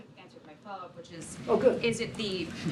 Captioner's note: laughter